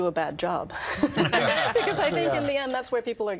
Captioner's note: all laughing